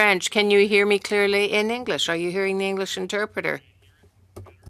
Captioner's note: speaking French